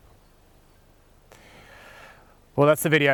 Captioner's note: deep breath